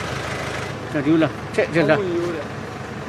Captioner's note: they converse in their language